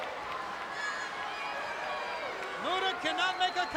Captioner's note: crowd chattering